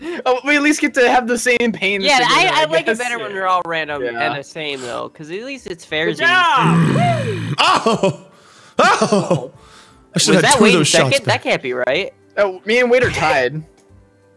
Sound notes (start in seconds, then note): 6.6 growling; 8.6 laughing